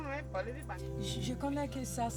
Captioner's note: speaking in french